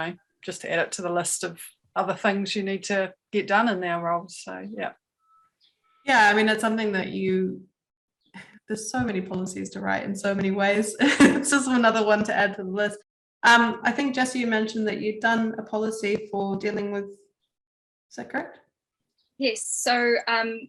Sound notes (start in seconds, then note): 10.8 laughs